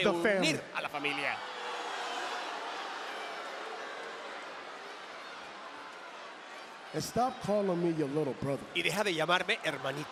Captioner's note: applause